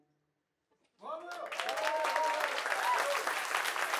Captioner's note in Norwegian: Applaus